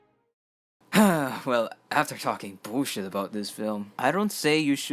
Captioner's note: sigh